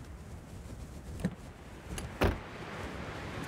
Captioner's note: car Door Opens & Closes